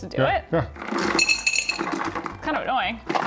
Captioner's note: ice clinking